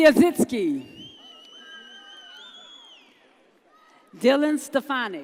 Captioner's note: audience cheers